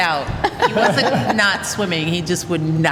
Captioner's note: laughter